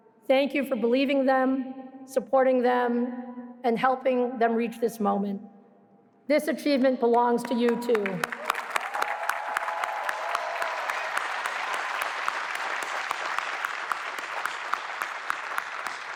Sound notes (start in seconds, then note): 7.4 applause